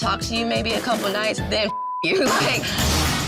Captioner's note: laughs